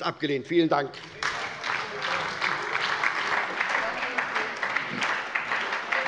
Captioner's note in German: Beifall bei der SPD